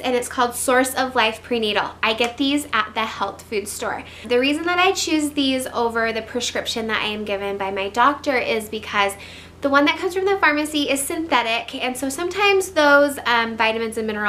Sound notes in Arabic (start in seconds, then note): none